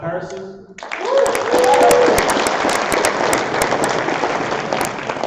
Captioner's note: applause